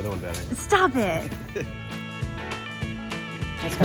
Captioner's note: laughs; upbeat music